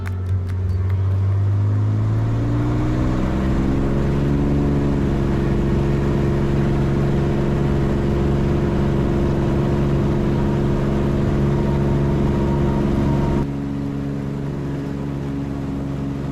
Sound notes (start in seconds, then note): 1.4 propeller plane engine